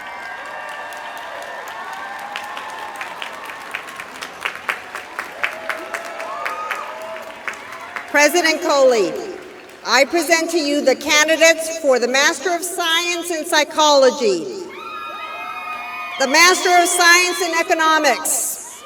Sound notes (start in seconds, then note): 0.0 applause